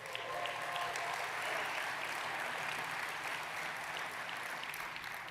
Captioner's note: audience applauding